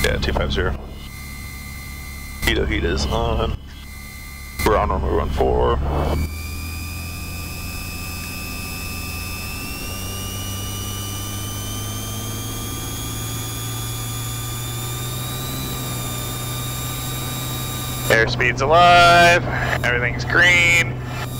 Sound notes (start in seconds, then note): 7.1 plane engines whirring